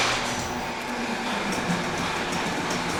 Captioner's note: garage door opens